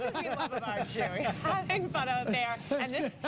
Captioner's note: laughter